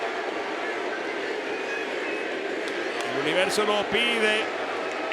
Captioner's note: applause